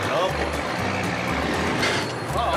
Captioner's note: gears grind; horn honks